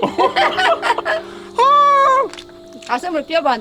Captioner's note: both laughing